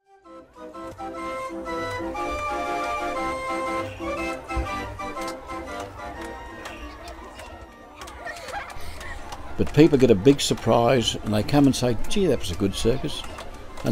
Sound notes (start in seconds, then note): 0.0 carnival music; 7.7 children laughing